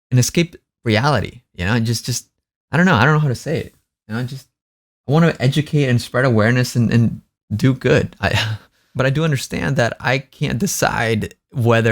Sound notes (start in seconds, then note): 8.3 sighs